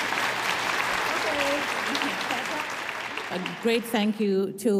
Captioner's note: audience applauding